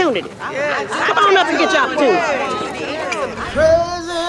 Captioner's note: women cheering